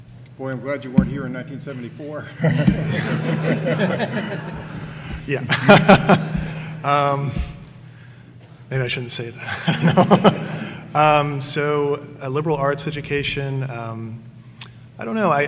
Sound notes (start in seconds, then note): 2.2 audience laughing; 6.3 laughing